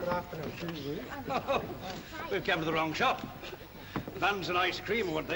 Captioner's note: chuckles